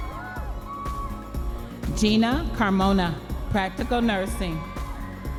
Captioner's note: audience members cheering